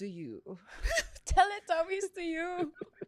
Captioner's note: laughs